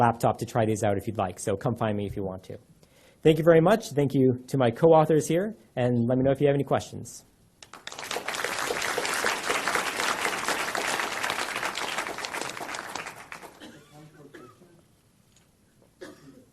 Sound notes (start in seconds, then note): 7.6 audience applause